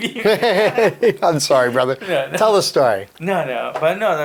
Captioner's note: laughing